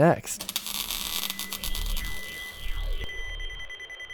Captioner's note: time machine whirs